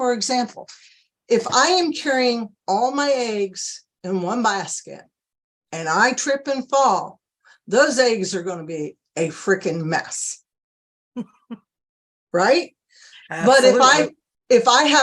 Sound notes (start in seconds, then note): 13.2 laughs